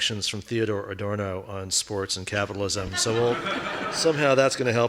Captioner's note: audience laughing